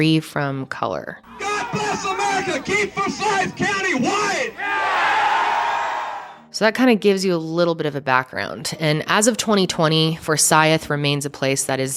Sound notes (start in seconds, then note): 4.9 crowd cheers